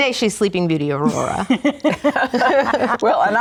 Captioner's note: laughing